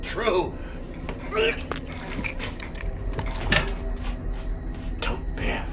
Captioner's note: Gordon gagging; body cracking